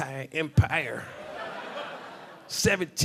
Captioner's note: audience laughing